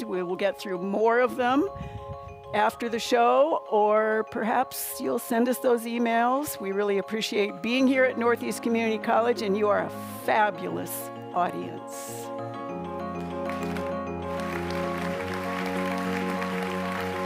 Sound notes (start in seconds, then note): 13.1 audience applauding